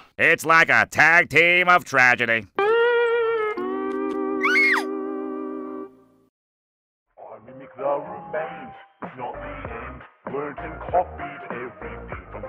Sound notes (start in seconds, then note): 4.4 screams